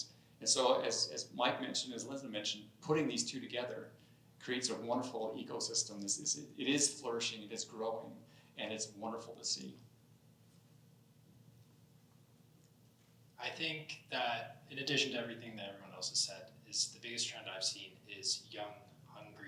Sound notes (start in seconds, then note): none